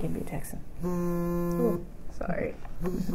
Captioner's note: phone vibrates